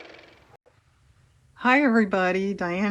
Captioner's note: car motor